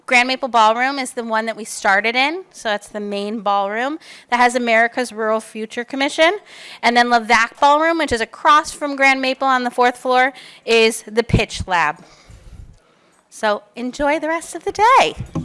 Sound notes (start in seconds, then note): none